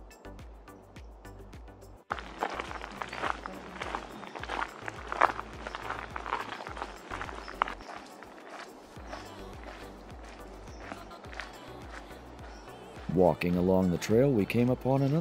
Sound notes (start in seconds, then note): 1.7 foot Steps On Gravel